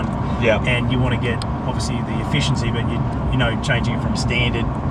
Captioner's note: engine